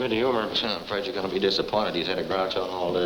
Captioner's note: scoffs